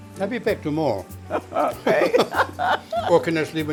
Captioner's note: laughs